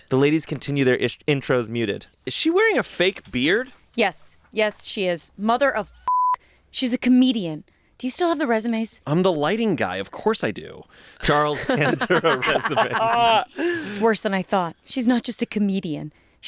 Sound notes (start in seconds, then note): 6.0 beep; 12.9 everyone laughs